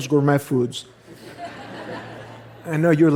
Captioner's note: laughter